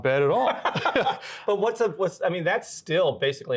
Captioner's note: interviewer laughs